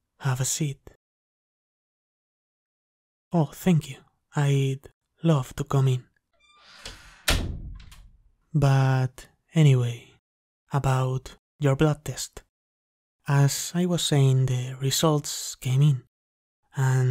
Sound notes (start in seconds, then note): 6.4 door Close; 8.8 possibly Flirty